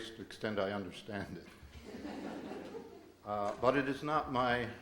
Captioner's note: audience laughs